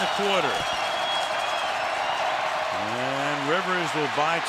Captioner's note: crowd cheering